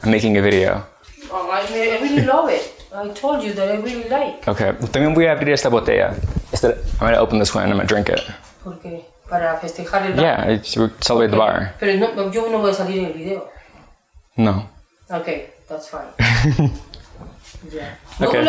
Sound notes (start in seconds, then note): 6.0 speaking Spanish; 8.7 speaking Spanish; 11.9 speaking Spanish; 16.2 laughing; 18.2 speaking Spanish